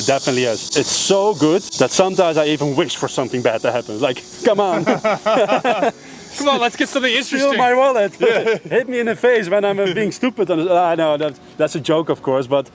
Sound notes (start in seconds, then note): 4.3 both laughs